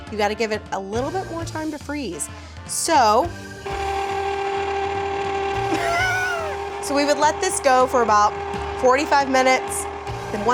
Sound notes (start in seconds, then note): 3.8 machine whirring; 5.7 laughs